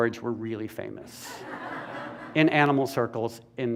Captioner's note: laughter